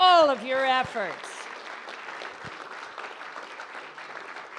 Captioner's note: audience applauds